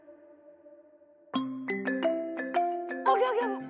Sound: phone ringing

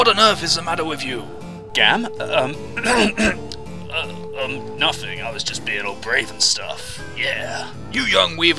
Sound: ahem

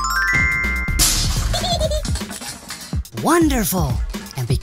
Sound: xylophone scale; crash

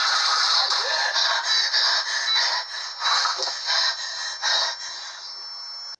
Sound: heavy breath

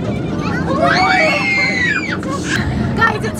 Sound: screaming

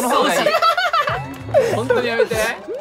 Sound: evil laugh

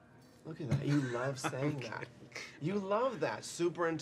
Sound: Frank laughs

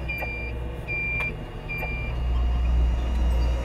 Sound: beeping continues

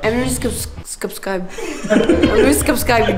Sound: giggles; laughs

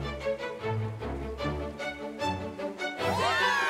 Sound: students cheer

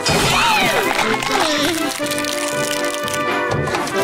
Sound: crackling

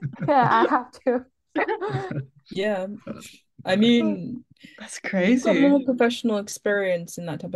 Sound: laughing

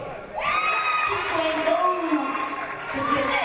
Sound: audience cheering

